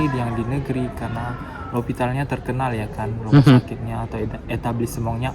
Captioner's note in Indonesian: tertawa